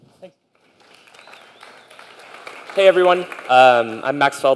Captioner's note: applause